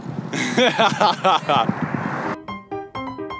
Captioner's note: mean laughter